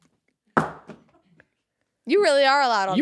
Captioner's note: phone thuds